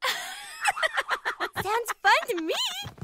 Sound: alex giggles

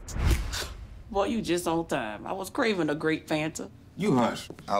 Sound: scoffs

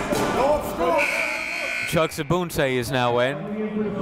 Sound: buzzer goes off

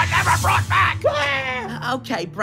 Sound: screaming

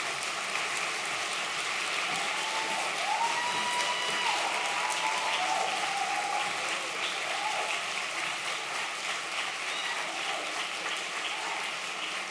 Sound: applause

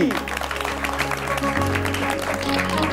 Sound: clapping

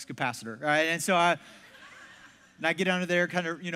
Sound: congregation laughs

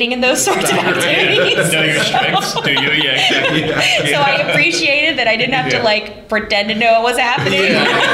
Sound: laughter

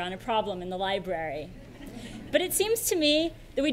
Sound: audience laughs

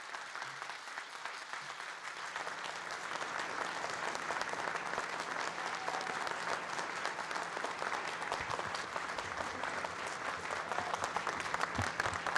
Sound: cheering and Applause

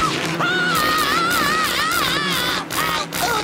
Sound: screaming

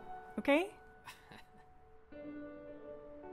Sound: chuckle

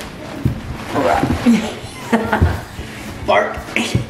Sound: laughter

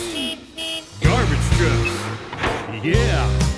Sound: horn beeps; machinery clanks

